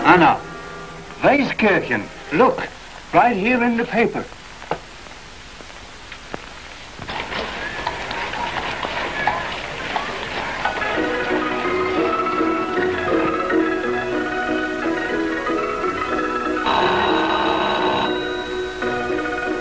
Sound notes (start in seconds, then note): 0.7 speaking in foreign language; 8.6 people chattering indistinctly; 10.9 upbeat jaunty music; 16.6 doorbell rings